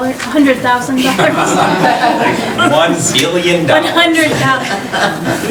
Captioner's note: laughing